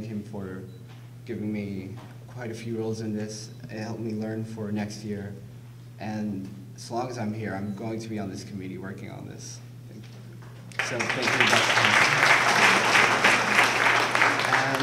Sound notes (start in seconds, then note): 10.7 applause